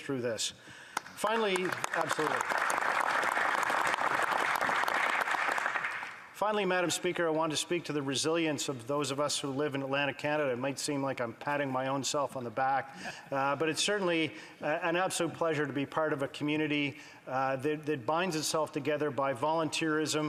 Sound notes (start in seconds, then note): 5.3 applause